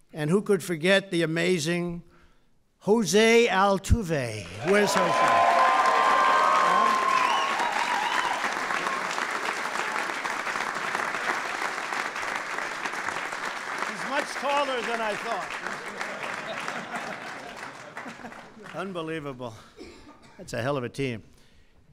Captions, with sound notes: And who could forget the amazing José Altuve? Where's José? (Applause.) He's much taller than I thought. (Laughter.) Unbelievable, that's a hell of a team.